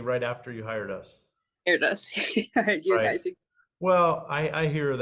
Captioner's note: giggles